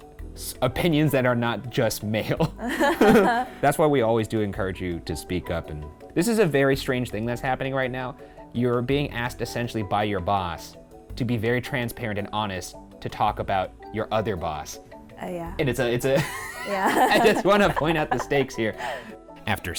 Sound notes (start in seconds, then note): 2.6 laughing; 16.1 laughing